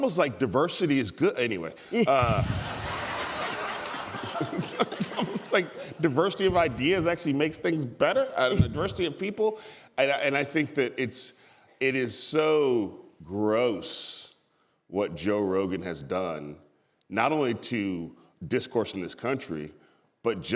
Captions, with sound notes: same level of knowledge and sensitivity. It's almost like diversity is good! (laughter)diversity of ideas actually makes ideas better. I think that it is so gross what Joe Rogan has done not